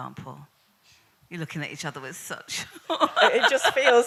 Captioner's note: laughs